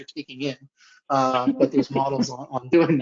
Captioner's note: chuckling